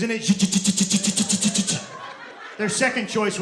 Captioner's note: mimicking machine gun